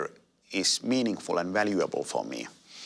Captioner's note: none